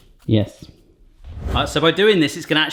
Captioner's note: air whooshing